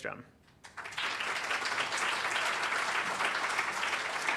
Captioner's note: applause